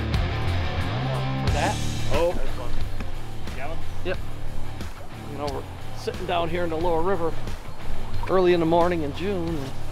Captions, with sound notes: (people mumbling) - You know we're sitting down here in the lower river early in the morning in June.